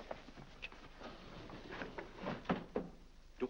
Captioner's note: doors slide shut